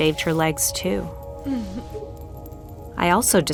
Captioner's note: chuckles